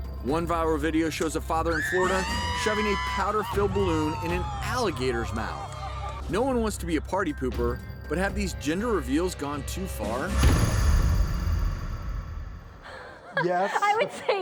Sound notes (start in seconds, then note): 1.6 people screaming; 12.9 laughing